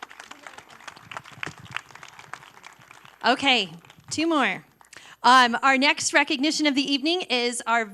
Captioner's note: applause